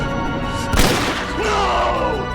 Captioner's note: gun firing